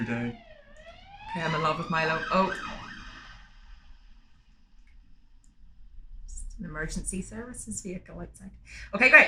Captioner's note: sirens pass